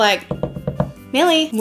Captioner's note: knocking